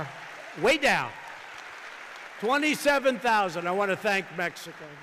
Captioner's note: applause